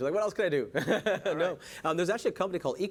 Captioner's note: laughing